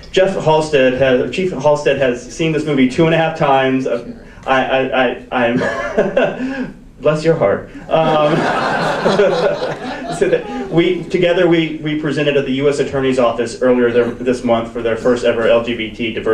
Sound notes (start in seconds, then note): 5.1 chuckles; 7.8 audience laughs